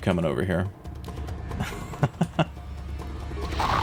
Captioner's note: laughs